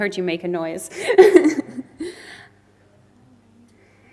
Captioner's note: loughs